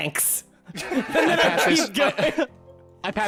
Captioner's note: laughter; laughing